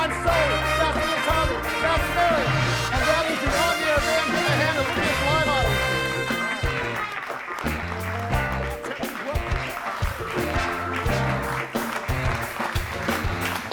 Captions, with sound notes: I'm Sully, that's Little Tommy, that's Mary, and that is the "On The Air" band, give them a hand, and that's our live audience. (audience applauding) (upbeat music continues) I'll tell you what. (audience applauding)